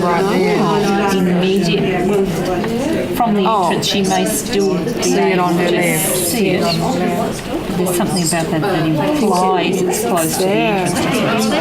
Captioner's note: participant chatter